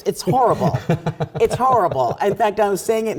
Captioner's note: laugh